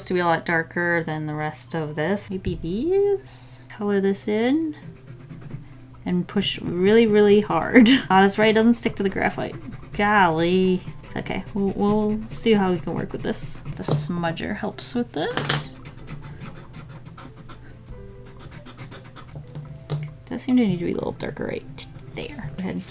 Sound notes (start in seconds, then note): 15.4 smudging, scratching sounds